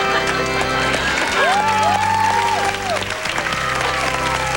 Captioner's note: ■cheers an■ applause